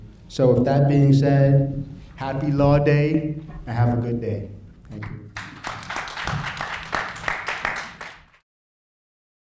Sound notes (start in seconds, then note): 5.3 applauding